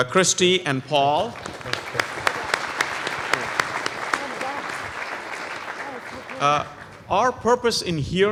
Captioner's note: applause